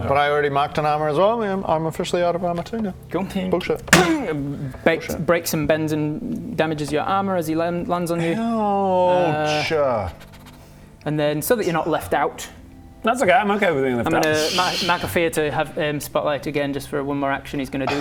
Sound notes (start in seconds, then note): 3.8 clang!